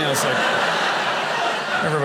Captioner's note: audience laughing